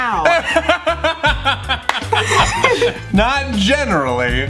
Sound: laughs

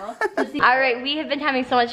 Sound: giggling

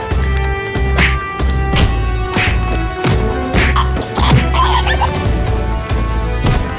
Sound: Royalty free punch SFX

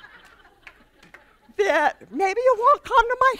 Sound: laughter

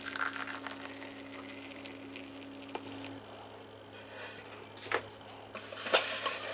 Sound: ice clinking and hot water steaming

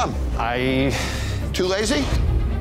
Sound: sighs

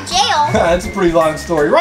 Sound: man chuckles

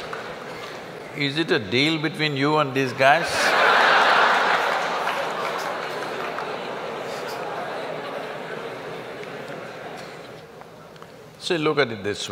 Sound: laughs

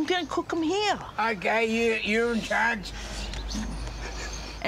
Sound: laughs

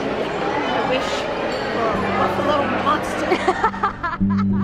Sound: laughter

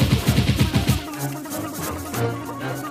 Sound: blubbering

